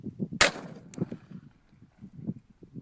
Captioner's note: gunshot